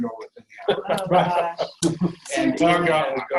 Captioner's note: laughing